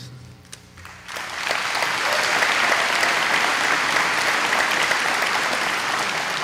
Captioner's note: applause